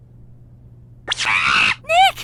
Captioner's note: Money chatters!